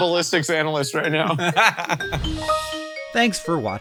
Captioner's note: laughing